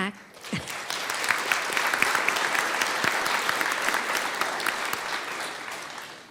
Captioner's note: clapping